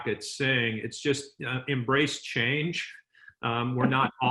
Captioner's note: light chuckling